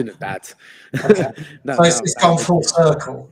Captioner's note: both laughing